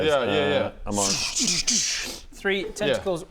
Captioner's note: zzzsz szzschh dsszch